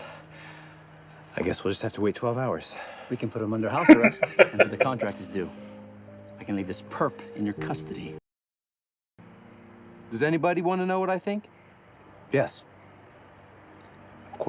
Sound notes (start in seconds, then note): 3.8 laughing